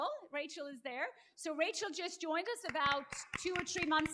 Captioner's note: applause